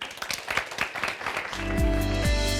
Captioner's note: audience applauds; upbeat music